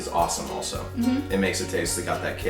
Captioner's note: humming